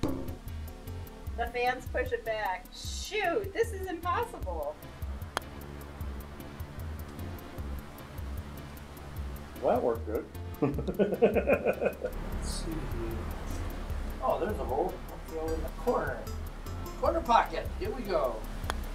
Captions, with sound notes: (ball bounces) The fans push it back. Shoot. This is impossible. (fans whirring) - That worked good. (chuckling) - Let's see here. Oh, there's a hole. I'll throw it in the corner. Corner pocket, here we go.